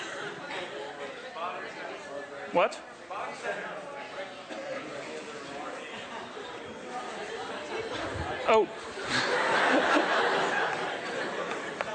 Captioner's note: laughter